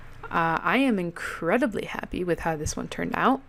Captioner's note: none